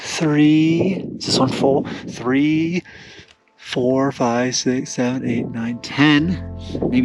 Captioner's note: none